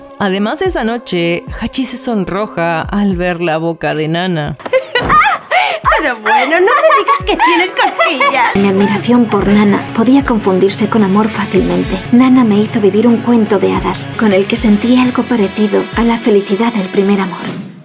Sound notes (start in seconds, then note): 4.6 laughs